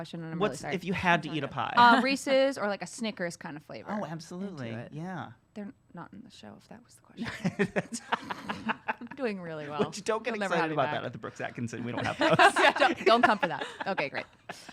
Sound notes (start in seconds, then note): 7.2 laughs